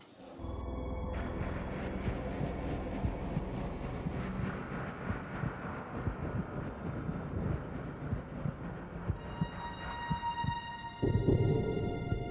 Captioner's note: heart beating